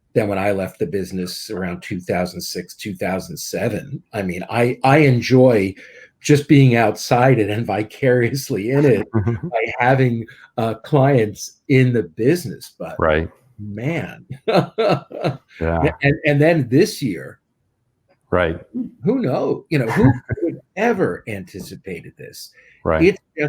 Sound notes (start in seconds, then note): 13.7 laughing